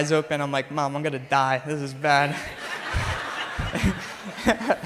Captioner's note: crowd laughs; chuckles